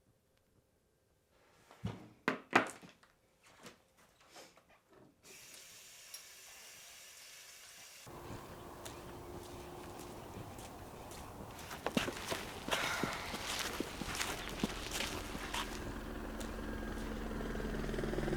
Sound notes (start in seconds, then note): 13.9 helicopter whirring